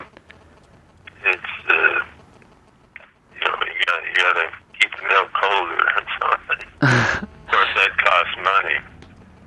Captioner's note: laughter